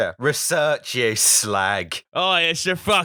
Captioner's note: cockney voice